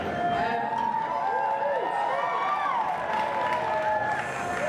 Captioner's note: audience cheers